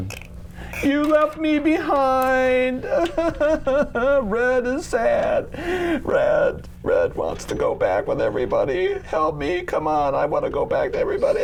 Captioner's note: sad voice